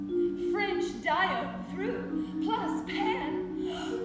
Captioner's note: gasps